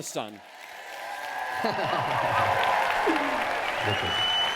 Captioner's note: applause